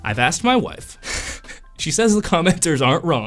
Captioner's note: laughing